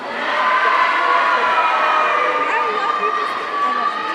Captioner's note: audience cheering